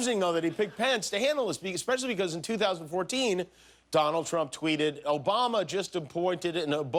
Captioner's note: laughter